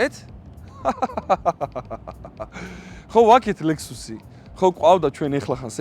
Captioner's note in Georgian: სიცილი